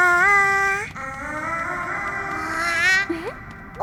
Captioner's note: vocalizing; Baby Bird exclaims; voice echoing